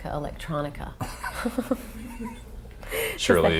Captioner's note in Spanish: Laughs